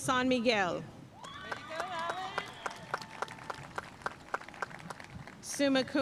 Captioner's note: audience cheering and applauding